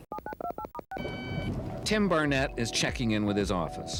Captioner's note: electronic beeps